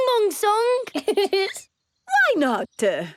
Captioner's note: giggles